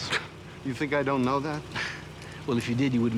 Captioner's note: scoffs